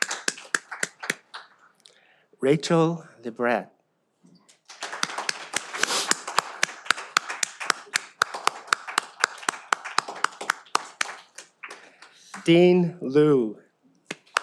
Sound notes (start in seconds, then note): 4.5 all applaud